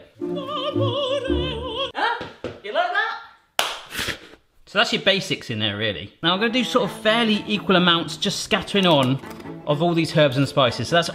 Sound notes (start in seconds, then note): 0.0 dramatic opera music; 3.6 clapping